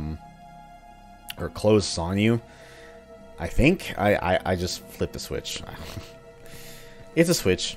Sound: chuckles

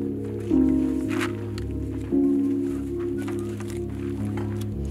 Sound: bag rustling

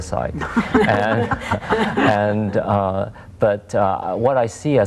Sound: all laugh

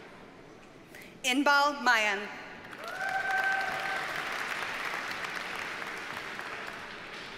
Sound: audience cheers and applauds

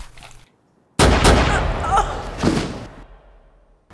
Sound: gun fires

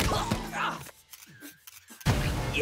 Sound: camera shutter clicking

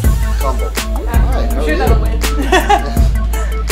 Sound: laughs

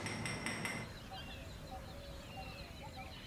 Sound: tool clanking; birds chirping

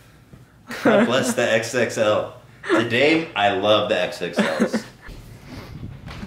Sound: laughing

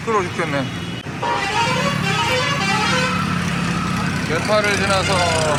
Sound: honk honking as if teasing us

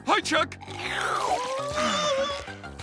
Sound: whimpering; sighing

